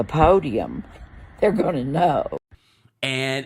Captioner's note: chuckles